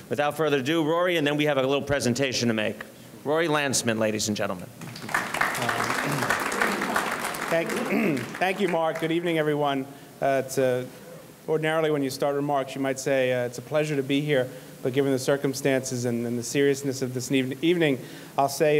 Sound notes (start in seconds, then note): 4.8 audience clapping